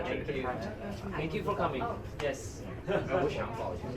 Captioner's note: speaking in foreign language